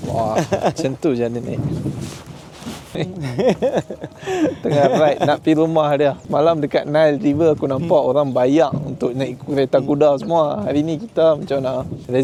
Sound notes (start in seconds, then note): 2.9 laugh